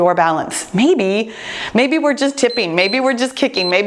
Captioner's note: timer beeps